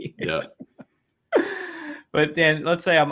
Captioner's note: laughs